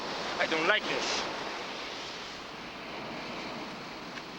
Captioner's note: waves crashing